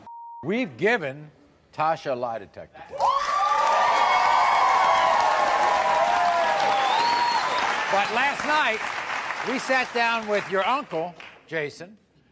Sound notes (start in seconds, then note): 2.9 audience cheers